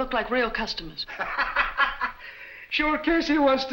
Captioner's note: laughing